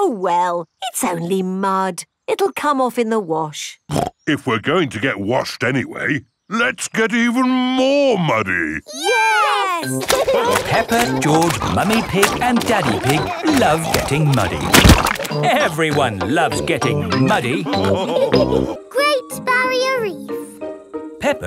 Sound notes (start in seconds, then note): 9.6 laughing